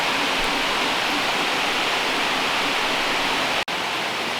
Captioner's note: rain pouring